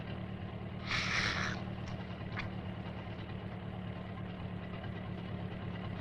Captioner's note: gasps deeply